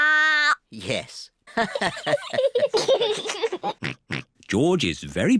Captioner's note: all laugh